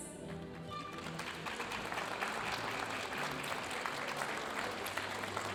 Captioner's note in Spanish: aplausos de la audiencia